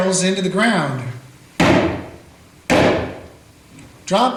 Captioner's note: shots fired